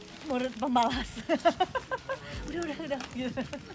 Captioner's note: laugh